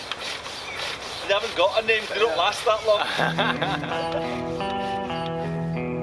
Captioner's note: laughs